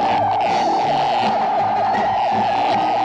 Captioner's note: buzzing